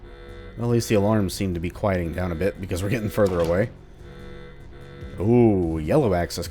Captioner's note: chuckles